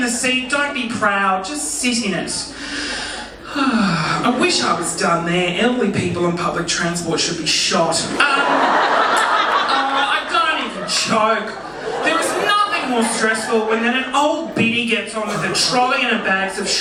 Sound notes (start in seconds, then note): 2.5 sighs dramatically; 8.2 audience laughing